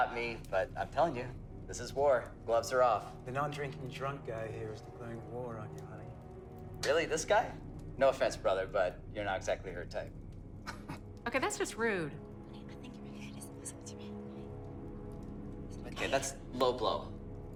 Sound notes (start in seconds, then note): 10.6 Nicholas laughs